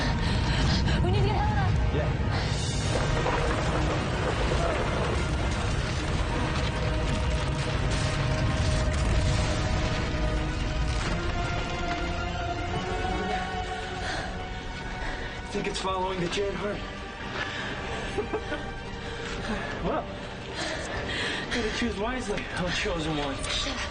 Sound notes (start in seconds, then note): 3.5 gasping; 10.5 crashing; 17.9 laughs